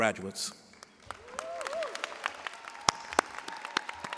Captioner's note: cheers and applause